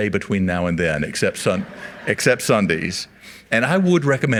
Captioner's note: audience laughs